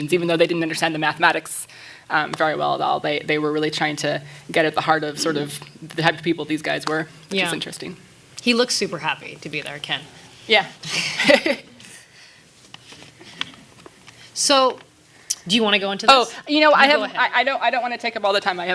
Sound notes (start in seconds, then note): 10.8 laughing